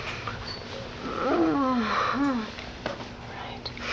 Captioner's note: groaning